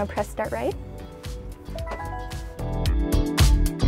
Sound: chimes

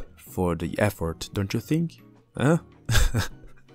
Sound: laugh

